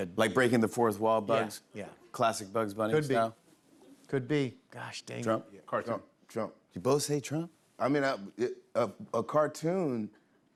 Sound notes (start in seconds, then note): none